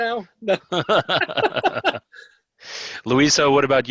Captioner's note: laughing